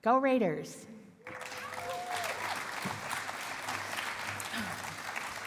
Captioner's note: cheering and applause